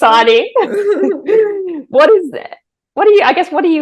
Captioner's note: both chuckling